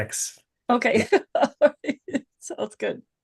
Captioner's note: laughs